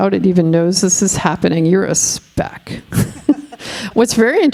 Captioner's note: laughing